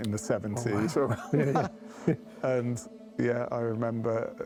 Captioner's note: chuckles